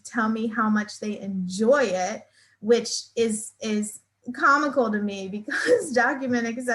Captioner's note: laughs